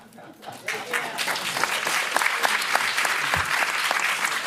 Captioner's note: applause